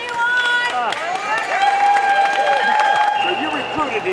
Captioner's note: supporters cheering